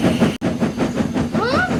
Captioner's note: Thomas Chuffing